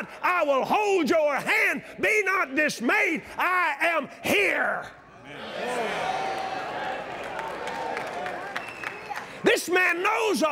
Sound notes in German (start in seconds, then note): 5.2 Anfeuerung